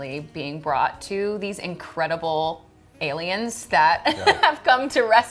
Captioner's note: laughing